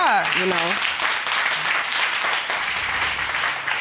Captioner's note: applause